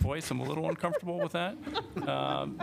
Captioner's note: laughter